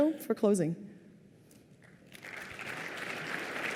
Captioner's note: applause